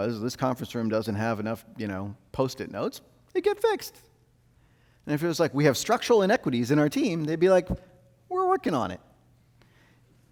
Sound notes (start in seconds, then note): none